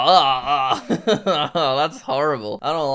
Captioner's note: laughs